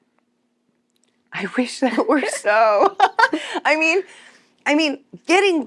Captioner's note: laughs